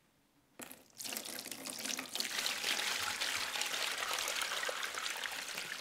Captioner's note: water splashes in bowl